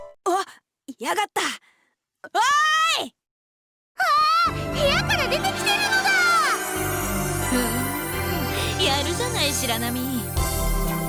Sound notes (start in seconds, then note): 8.2 impressed hum